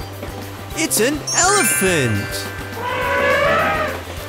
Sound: elephant trumpets

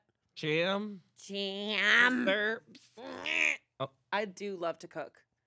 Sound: groans

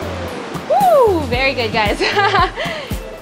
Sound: chuckles

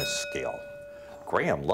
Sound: bell ringing

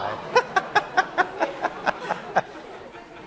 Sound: laughing

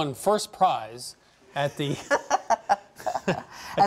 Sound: laughing

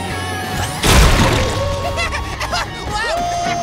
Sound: laughing

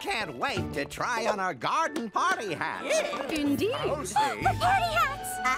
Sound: excited chatter; gasp

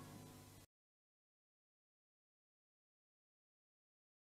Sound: silence

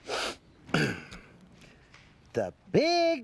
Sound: clears his throat

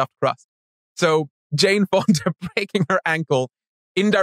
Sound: laughs

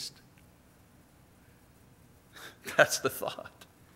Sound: laughs

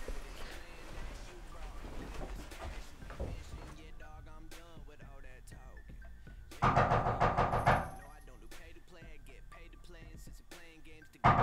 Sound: persistent knocking on the front door

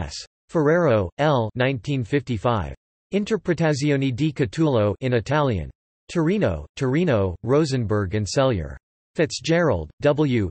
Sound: in Italian

